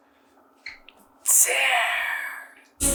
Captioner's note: basilisk voice; basilisk voice